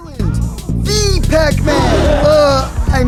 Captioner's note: ghosts: *Gasp